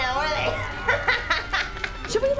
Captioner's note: laughs